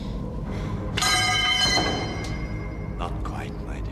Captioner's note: crowbar clanging